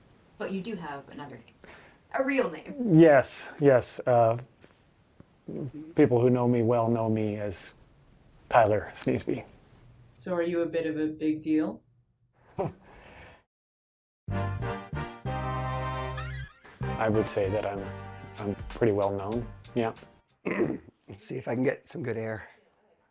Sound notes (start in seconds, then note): 12.5 giggling; 14.4 energetic hip hop music